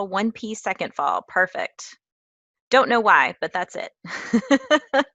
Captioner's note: laugh